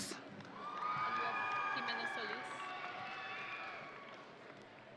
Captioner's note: audience cheering